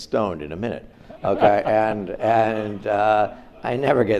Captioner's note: audience laughs